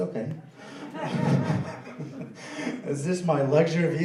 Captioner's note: laughing